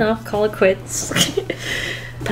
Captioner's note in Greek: Γέλια